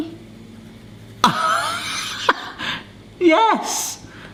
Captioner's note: laughs